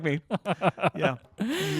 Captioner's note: laughing